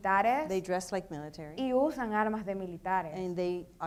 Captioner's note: speaking in foreign language; speaking in foreign language